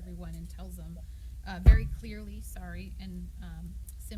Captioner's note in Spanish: golpe de micrófono